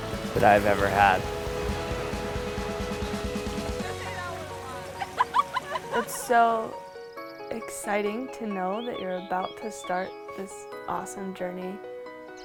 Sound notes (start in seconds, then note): 4.9 indistinct chatter and laughter